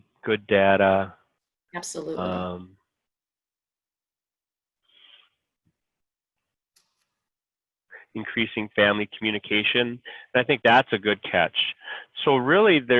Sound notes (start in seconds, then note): 5.4 silence